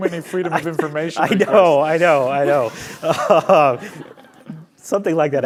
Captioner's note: laughs